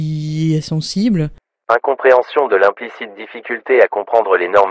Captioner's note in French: Voix off